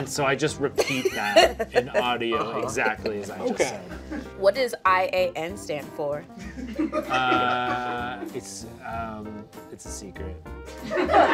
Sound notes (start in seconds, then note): 7.2 stammering